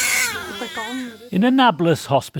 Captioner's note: baby crying